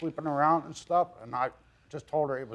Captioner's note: none